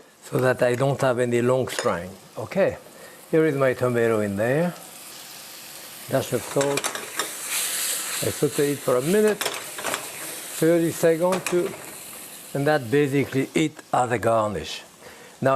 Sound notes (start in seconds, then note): 7.4 pan sizzling